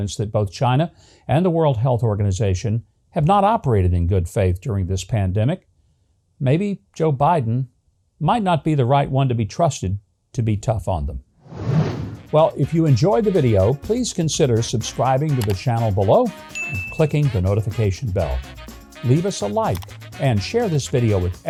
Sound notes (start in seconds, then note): 11.4 air swooshes; 16.5 ding